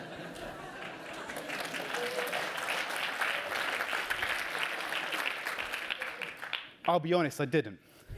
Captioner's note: applause